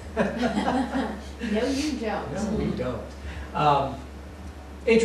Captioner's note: laughter